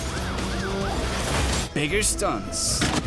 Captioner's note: siren wailing